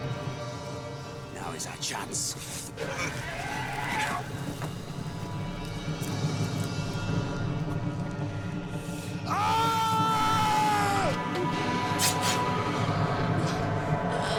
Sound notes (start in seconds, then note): 2.8 dragon roars; 9.2 yells; 11.3 dragon roars; 12.6 gasps